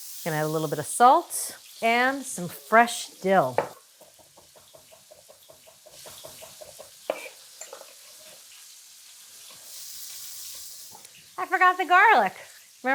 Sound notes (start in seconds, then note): 4.5 pan sizzling continues